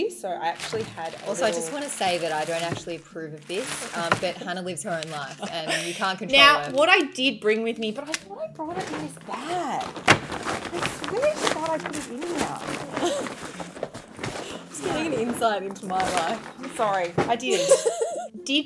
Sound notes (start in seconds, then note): 10.8 contents rustling; 17.4 laughing